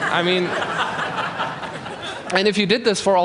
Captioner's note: laughter